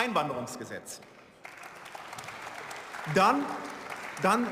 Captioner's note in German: Beifall